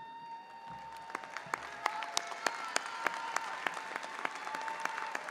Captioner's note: audience applauding and cheering